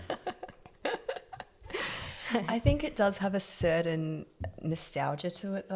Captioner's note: laugh